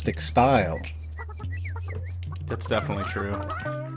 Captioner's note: chickens clucking